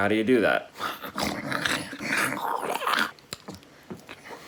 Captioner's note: grunting noises